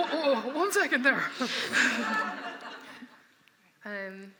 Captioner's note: laughter